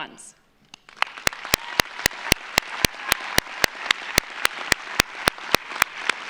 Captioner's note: audience applauds; audience cheers